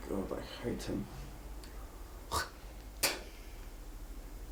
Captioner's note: Konstantine spits